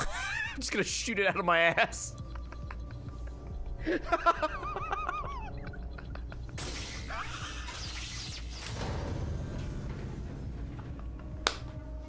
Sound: laughs

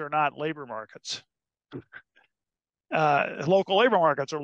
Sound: laugh

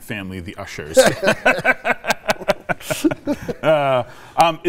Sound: both laugh

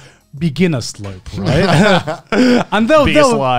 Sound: all laughing

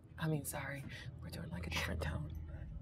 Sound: speaker speaks in a low tone

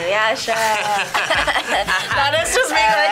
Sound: laugh

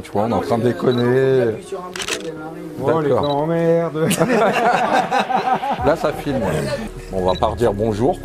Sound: laughs

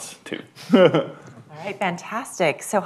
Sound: laughter

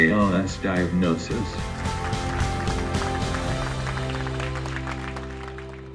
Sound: applause

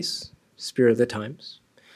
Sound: speaking foreign language

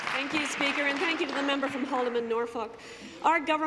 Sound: applause

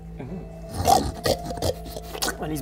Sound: grunts and snuffles

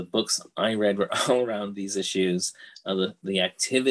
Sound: laughs

